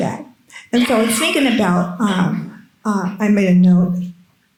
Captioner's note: attendee coughing